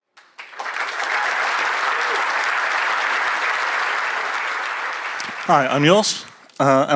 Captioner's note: applause